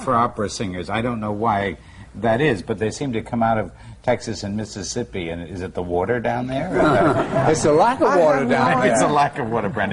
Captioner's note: laughs